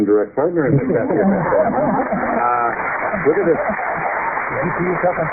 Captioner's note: laughter and applause